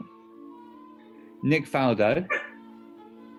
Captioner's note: dog barks